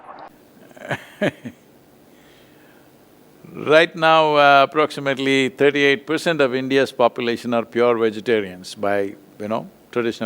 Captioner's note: laughs